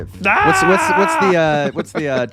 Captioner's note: man screams